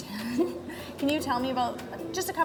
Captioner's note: laughs